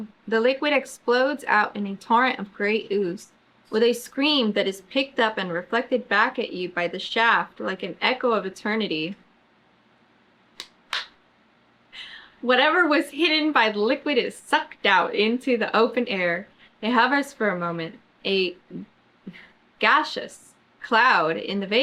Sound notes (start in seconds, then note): 10.9 claps